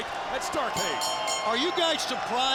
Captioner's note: bell rings